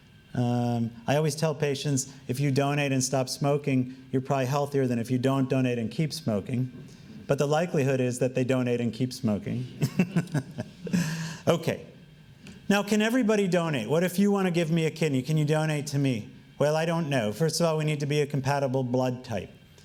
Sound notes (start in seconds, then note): 9.7 laughing